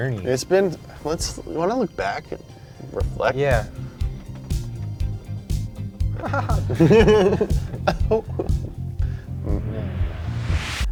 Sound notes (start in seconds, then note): 6.1 both chuckle